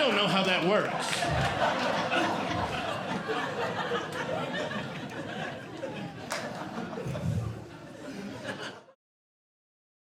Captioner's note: audience Laughing